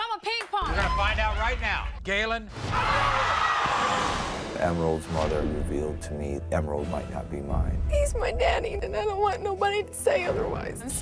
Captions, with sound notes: - We're gonna find out right now, Gailan. (audience cheers) - I knew it. - Emerald's mother revealed to me Emerald might not be mine. - He's my daddy and I don't want nobody to say otherwise.